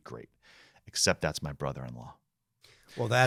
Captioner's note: chuckling